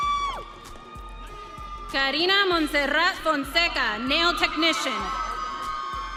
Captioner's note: audience cheering